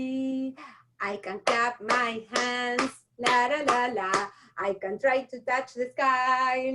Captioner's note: claps